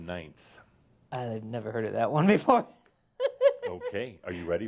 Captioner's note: he chuckles